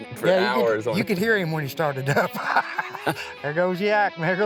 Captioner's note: laughs